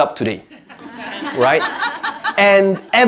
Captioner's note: audience laughing